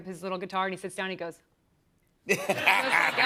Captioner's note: laughs